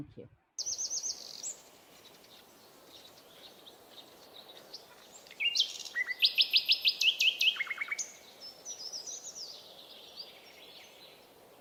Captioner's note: birdsong